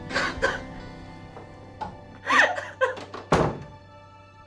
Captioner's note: crying